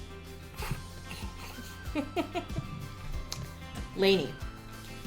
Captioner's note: snickering